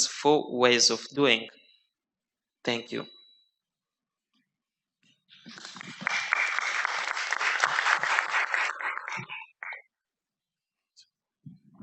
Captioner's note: applause